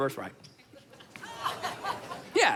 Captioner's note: crowd laughs